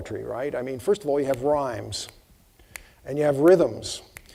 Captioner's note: snapping fingers